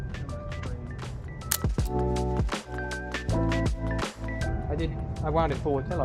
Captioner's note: camera shutter